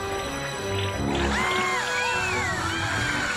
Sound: screaming

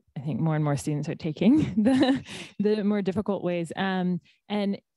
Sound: laughs

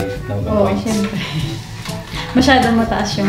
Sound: chuckles

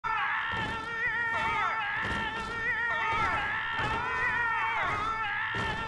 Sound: screaming of the damned

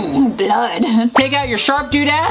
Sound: chuckles

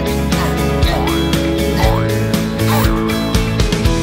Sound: grunting, springs boing

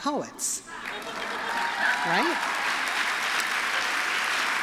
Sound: applause

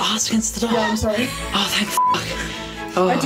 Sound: giggling

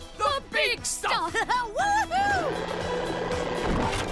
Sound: laughing

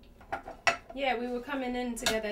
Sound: dishes clanking

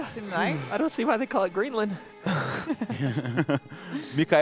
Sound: laughter

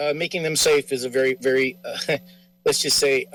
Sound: chuckles

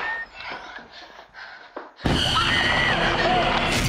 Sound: screaming

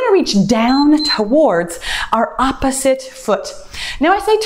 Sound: timer beeps

